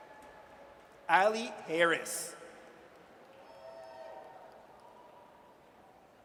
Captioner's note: audience cheers